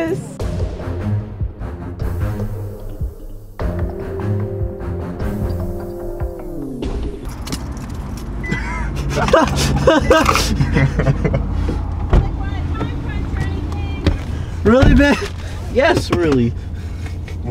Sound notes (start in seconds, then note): 0.0 dramatic music; 8.4 laughter